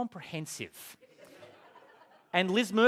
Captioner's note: laughter